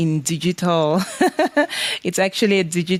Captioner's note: laughs